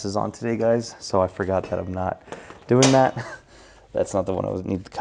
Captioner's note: laughs